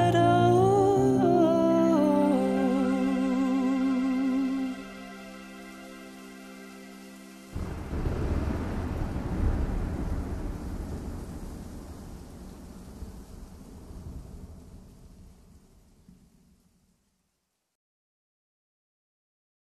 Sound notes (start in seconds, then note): 4.2 falling rain; 7.5 thunder